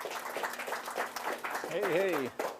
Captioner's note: audience clapping